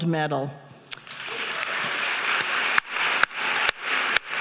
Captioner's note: audience applauding